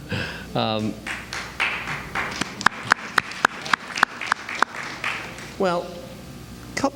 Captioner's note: applause